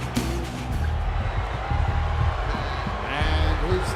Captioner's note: pulsing music; audience cheering